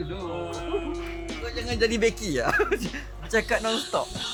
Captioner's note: laugh